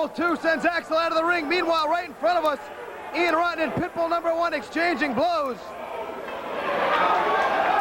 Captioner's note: crowd cheering